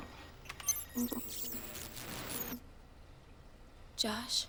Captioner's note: static crackling